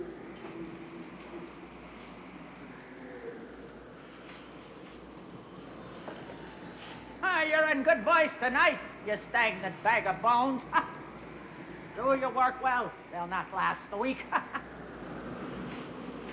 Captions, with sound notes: - Ha! You're in good voice tonight, you stagnant bag of bones! (laughs) Do your work well, they'll not last the week. (laughs)